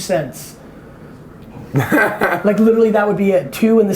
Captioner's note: laughs